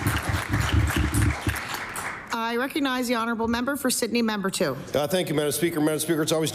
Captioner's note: applause